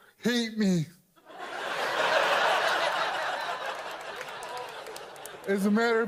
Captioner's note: audience laughs